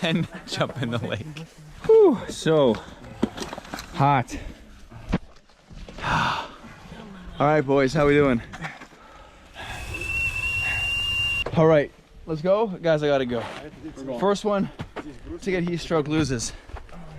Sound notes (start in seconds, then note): 6.6 sighing; 9.6 kettle whistling